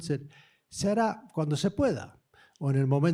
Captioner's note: speaking spanish